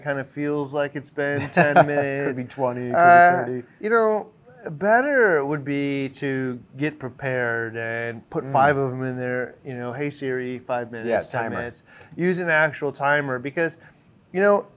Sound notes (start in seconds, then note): 2.9 chuckle